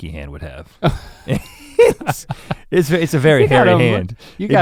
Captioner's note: chuckles